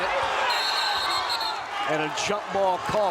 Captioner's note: whistle blows